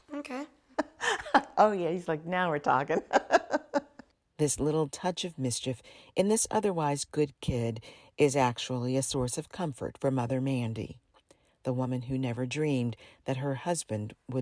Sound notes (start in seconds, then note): 0.7 laughing